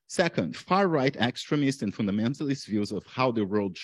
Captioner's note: none